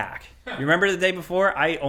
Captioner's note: companion chuckles